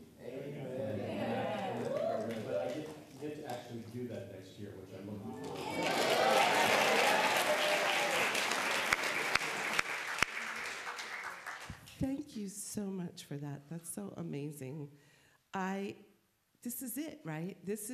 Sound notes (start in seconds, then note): 5.4 applause